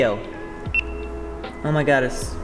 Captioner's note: camera beeps